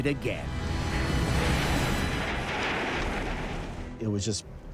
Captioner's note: lava churning